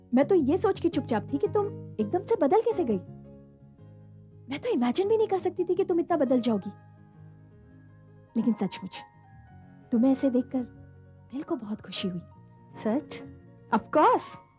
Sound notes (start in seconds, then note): none